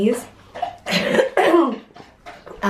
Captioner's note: coughing